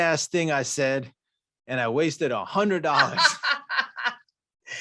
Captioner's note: laughs